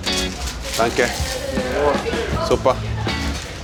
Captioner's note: speaking foreign language